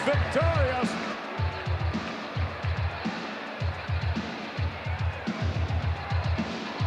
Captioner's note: upbeat music; audience cheering